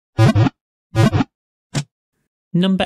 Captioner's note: Pokéball wiggle sound